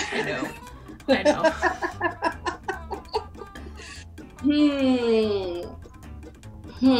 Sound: Fai laughs

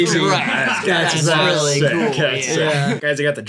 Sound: chatter

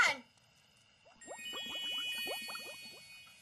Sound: tinkling, bubbling

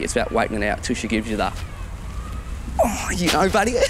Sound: moans

